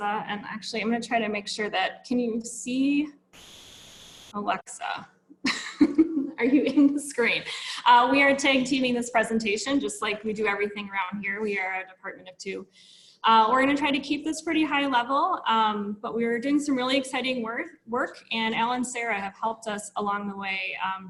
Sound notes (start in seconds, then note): 5.5 laughs